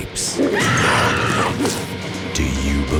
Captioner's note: woman screams